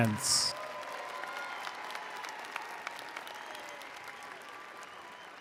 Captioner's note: attendees applauding